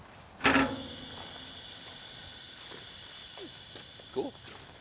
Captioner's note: pipe hissing